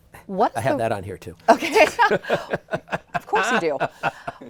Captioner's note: laughs